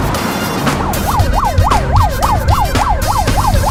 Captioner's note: siren sound